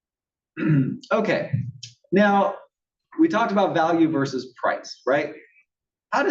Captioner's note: cough